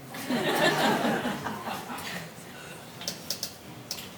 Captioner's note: audience laughing